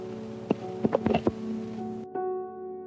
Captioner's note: tape stops